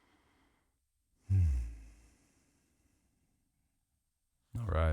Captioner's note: exhaling